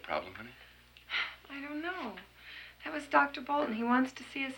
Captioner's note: sighs